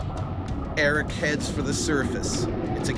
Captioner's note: voiceover